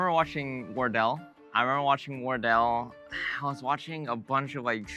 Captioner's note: sighs